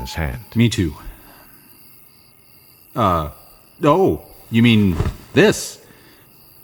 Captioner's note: questioning